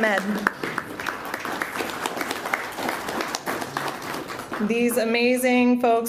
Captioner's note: applause